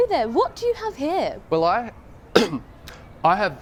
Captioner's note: coughs